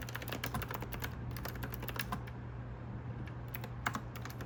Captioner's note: keyboard asmr